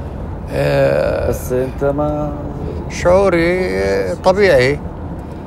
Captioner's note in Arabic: يتحدث لغة أجنبية